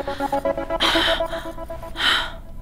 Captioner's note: Gauravi exhales